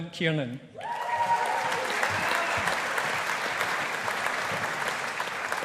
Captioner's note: audience applauding